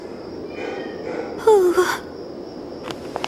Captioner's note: moans